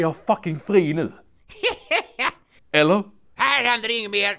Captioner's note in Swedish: skrattar